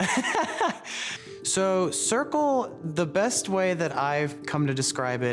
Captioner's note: laughter